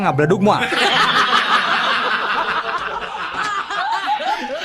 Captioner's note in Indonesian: tertawa